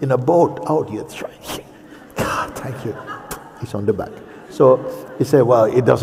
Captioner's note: laughter